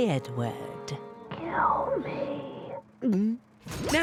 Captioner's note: straining; gulps